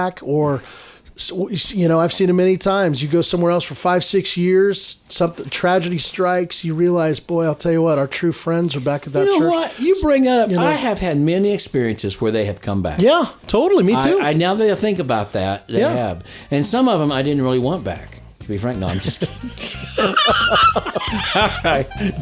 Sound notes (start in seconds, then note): 18.8 everyone laughing; 21.2 bright music